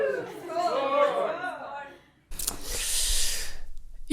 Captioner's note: cheers!